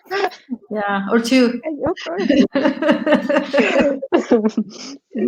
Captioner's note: group laughing